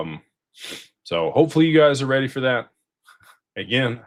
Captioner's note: snorts